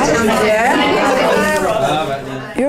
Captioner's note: participant chatter